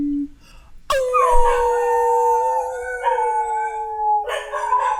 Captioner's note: howling